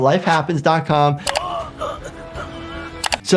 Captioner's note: man grunts